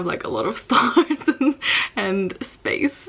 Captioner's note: laughs